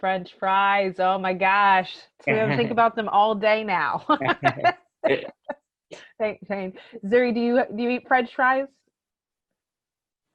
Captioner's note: laughs